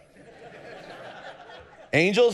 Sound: congregation laughing

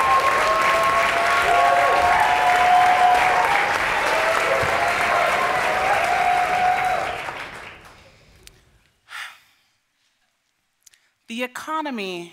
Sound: applause

